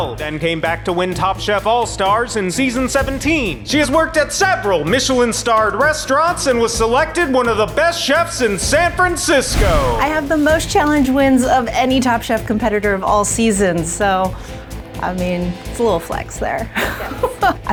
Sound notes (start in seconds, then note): 9.4 screen whooshes; 16.7 laughs